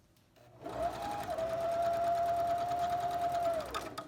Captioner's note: sewing machine hums